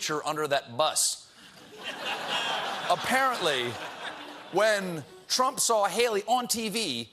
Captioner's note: laughter